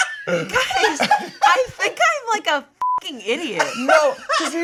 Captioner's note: beep